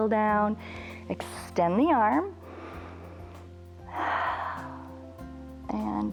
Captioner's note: inhales and exhales